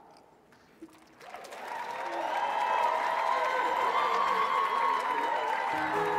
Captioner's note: audience clapping and cheering